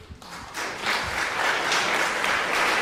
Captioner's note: applause